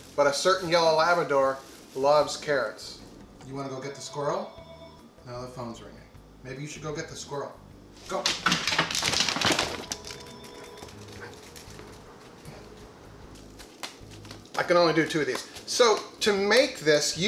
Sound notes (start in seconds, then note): 9.8 feet pattering; 13.3 slapping